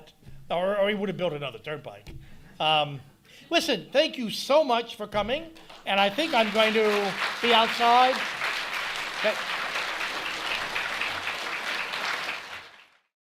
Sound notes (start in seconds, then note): 5.6 speaking over audience applause; 8.1 applause continues